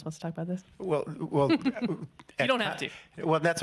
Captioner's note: laughing